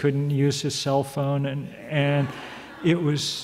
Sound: audience laughs

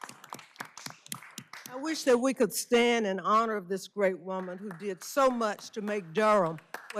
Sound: applause

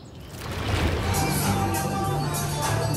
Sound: water sploshing; upbeat music

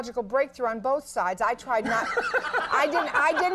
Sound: Conan laughing

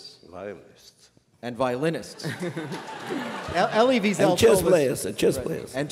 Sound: laughter

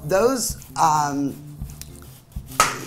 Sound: cutting

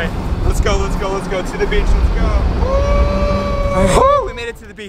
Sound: cheering

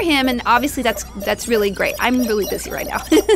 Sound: laughs

